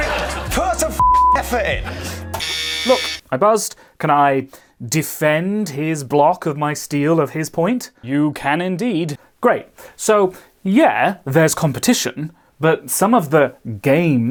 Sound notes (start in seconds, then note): 2.3 buzzer